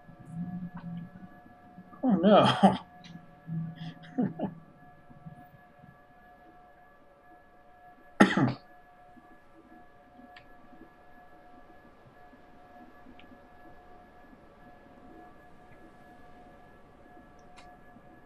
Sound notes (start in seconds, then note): 3.8 laughing; 8.2 coughs